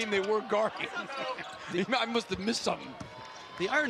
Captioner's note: laughter